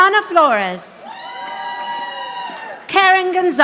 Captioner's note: audience applauding